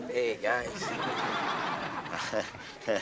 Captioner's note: audience laughs; Alex chuckles